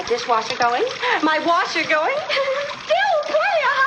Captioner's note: giggles